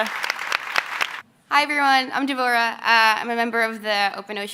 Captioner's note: applause